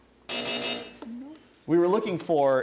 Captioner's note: buzzer